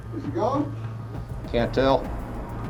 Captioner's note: voiceover